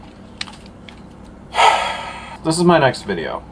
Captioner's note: big sigh